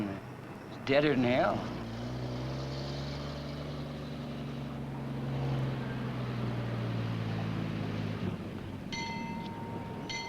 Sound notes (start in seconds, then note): 6.5 bell rings